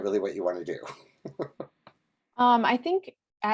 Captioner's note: laughs